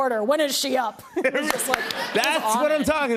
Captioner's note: laughter